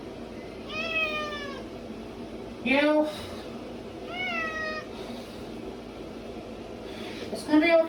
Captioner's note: Caprice meows loudly; Caprice continues meowing